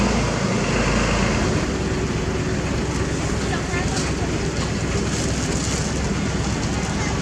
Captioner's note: engine Rumble